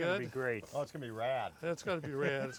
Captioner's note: laughs